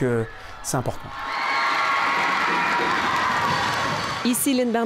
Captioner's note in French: applaudissements